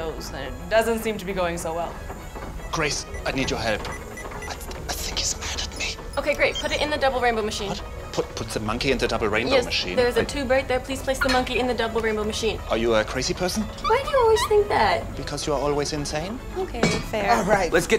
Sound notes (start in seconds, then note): 3.8 whispering